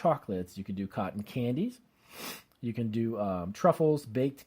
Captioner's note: sniffs